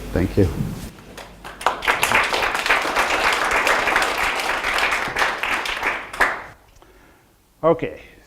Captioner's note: audience applause